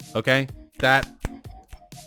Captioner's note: clap clap clap